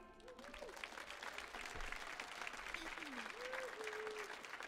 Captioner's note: audience applauds